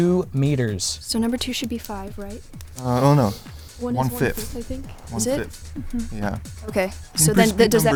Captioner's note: wispering